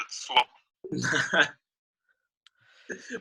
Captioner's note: laughing